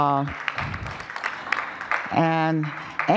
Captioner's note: applause